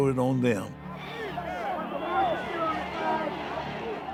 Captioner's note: clamoring